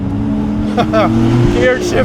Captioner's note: laughs